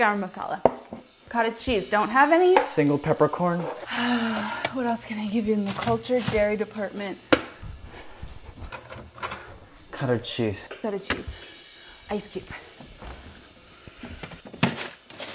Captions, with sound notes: Ha! Garam Masala. - Cottage cheese, don't have any. - Single peppercorn. - [exhales] What else can I give you in the cultured dairy department? [jazzy drum beat] - Cottage cheese. - Feta cheese. Ice cube. [drum beat]